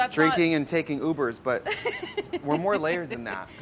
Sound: laughs

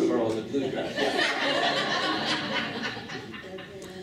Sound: laughing

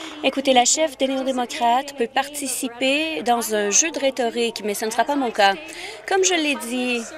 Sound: applause

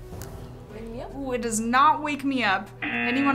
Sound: buzzer

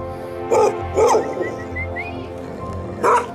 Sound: whistles

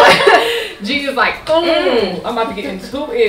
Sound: laughter

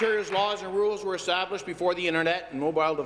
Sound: applause

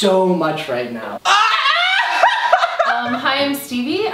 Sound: laughs

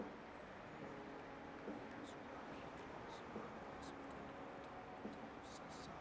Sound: whispers

